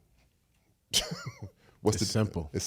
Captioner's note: Eric laughs